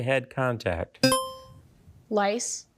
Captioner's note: buzzer chimes